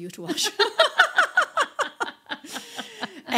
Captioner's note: laughing